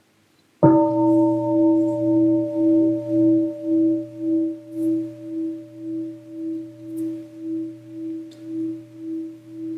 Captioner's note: gong